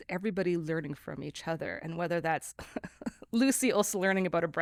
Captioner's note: laughs